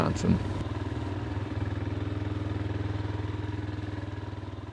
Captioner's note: quad bike engine roaring